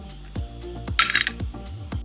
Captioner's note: snap!